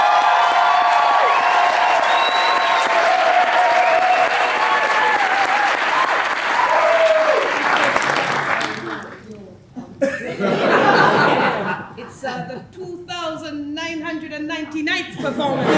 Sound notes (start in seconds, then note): 0.0 applause; 9.8 laughs